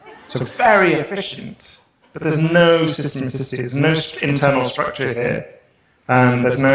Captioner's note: laughter